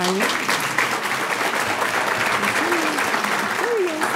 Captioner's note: audience clapping